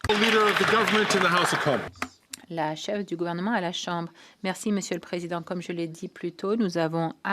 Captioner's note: some Applause